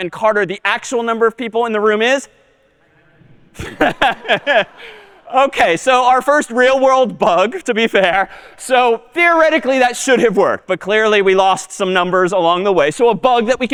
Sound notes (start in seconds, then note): 3.5 می خندد